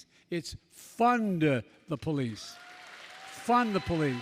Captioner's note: applause